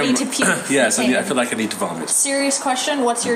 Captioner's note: clears throat